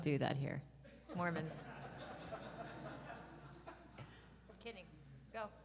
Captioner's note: audience laughs